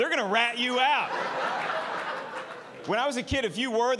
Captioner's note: audience laughing